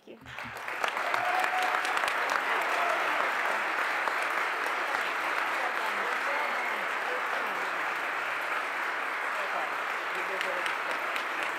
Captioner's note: applause